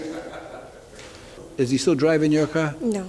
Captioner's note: laughter in courtroom